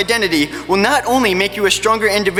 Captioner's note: none